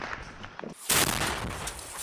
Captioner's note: explosion; gunfire